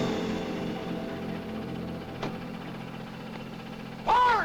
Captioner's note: siren whines; suspenseful music; elevator clatters